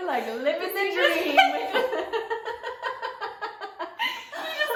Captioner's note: laughter